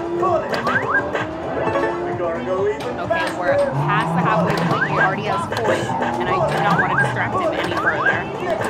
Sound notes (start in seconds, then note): 0.6 game chimes